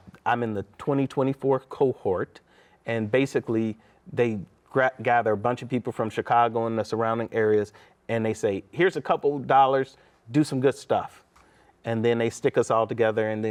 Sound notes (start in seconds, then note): none